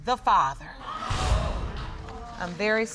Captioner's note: audience exclaiming